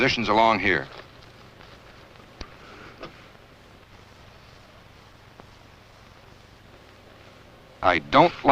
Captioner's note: silence